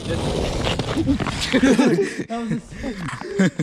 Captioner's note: falls